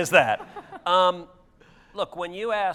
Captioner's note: audience laughter